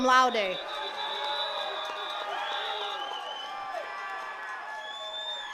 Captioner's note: attendees cheering and clapping